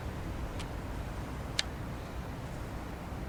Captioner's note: click